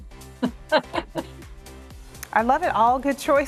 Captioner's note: laughing